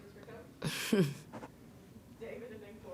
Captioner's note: Staley giggling